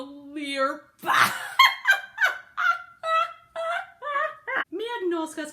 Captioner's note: laughs raucously